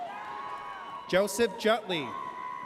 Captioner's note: audience cheers